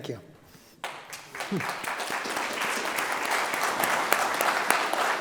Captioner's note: audience clapping